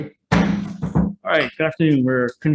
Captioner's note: gavel strikes